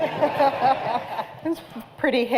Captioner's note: laughter